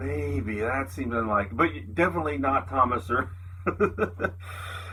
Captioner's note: laughs